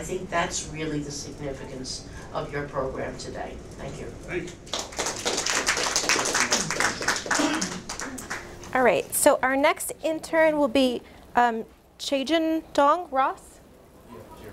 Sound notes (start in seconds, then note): 4.6 audience applause